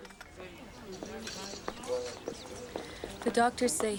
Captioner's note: people chattering